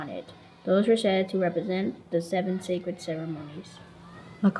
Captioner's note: none